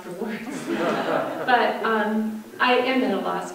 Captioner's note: audience laughter